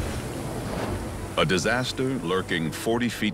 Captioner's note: water gushing